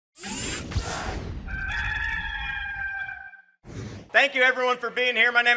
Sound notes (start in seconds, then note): 1.5 cock crowing